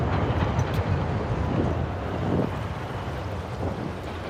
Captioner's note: wind rusting